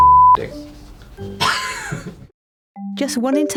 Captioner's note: laughs